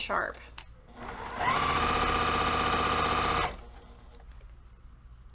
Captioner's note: sewing machine rattling